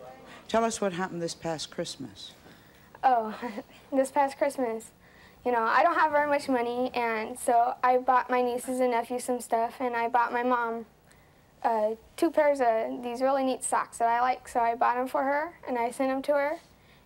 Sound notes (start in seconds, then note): 3.3 chuckles